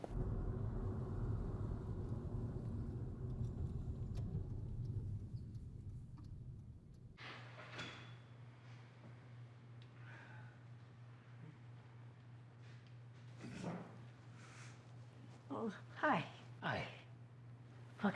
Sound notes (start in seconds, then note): 0.0 engine rumbling; 13.4 John's throat clears